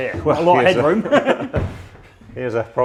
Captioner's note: laughing